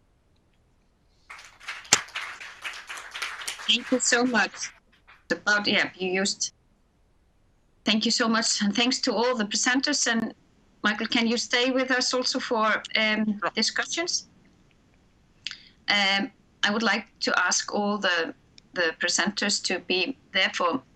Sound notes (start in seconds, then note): 1.3 audience applause